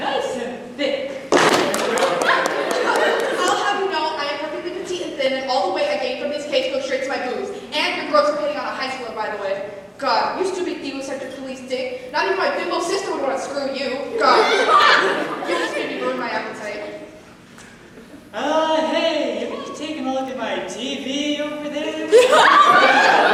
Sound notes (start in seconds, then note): 1.3 loud thud; 2.5 stocking scoffs